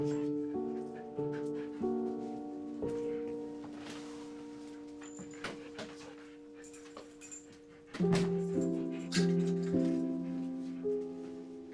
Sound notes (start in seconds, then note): 0.1 soft dramatic music; 7.9 dog panting